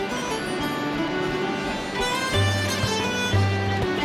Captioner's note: sounds of rushing water